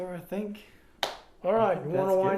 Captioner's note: claps